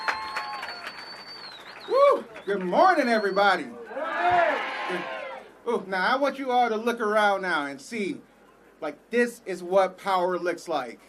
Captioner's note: applause